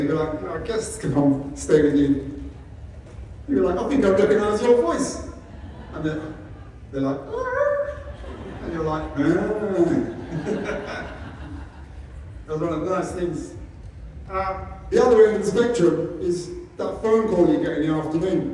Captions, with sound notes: guests come round, stay with you. You're like, I think I recognise your voice. And they're like, and you're like, [Laughter] That's one of the nice things. At the other end of the spectrum is that phone call you get in the afternoon.